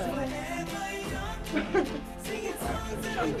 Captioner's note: laughs